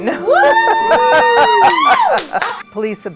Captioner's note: laughs; director clapping